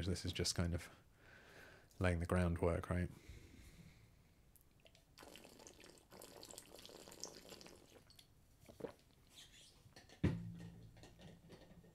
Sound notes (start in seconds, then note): 3.1 pouring